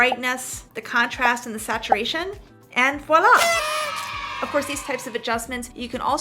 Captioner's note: kids applause